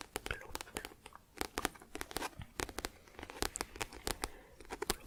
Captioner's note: tapping on book